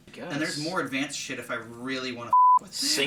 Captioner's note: beeping